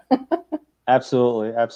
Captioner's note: laughs